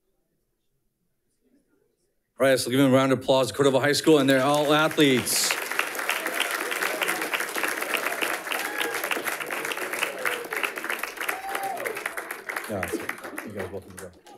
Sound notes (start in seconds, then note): 5.8 audience cheering and applauding